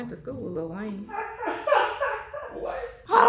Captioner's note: crew laughs